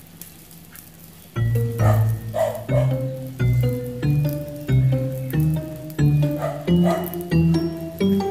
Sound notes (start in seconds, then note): 1.7 dog barking